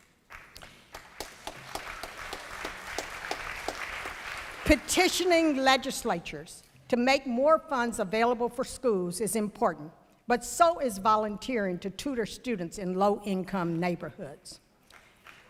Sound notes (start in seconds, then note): 0.0 applause